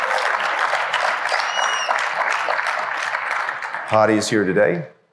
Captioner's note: applause